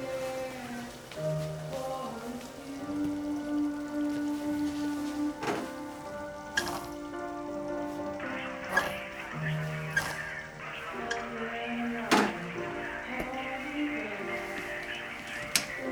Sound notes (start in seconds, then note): 6.7 faucet squeaks